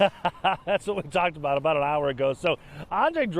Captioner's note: laughter